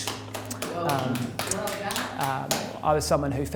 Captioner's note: scattered applause